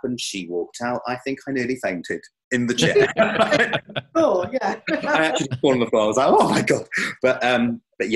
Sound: laughs

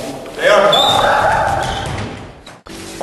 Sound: screams

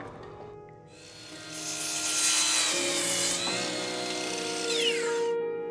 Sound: electric saw

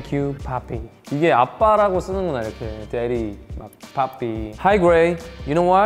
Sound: speaking in Korean

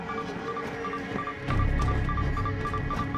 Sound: beeping intensifies

